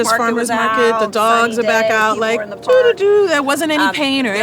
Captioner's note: humming